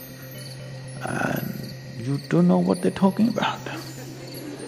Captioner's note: laughter; 笑聲